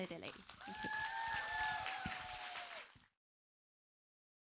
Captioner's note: applauds and cheers